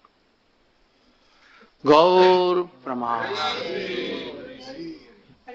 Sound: crowd

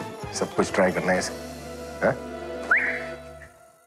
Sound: whistling

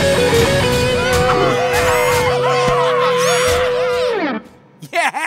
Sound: cheering

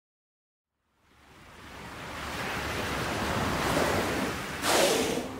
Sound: water rushing

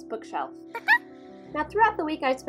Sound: squirrel squeak

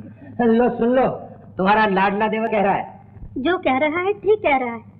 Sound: none

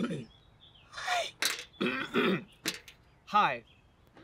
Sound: coughing

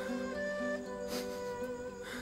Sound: Ağlama sesi

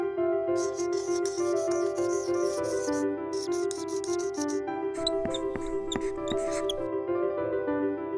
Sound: marker sounds

